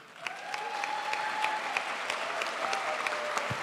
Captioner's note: crowd applauds